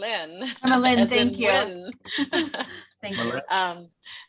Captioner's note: laughing